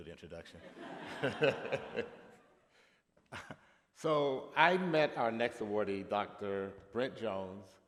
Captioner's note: laughter